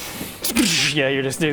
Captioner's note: sxcrzzzrch